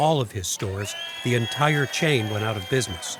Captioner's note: crowd cheers